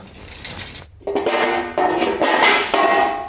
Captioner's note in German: Metallisches Knarren